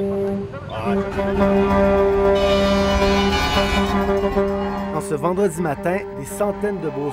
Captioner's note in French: klaxons